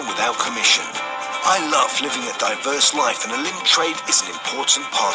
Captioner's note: advert playing